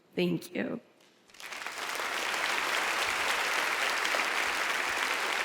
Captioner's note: audience applauds